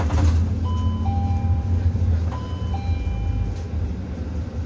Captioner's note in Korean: 하차벨 소리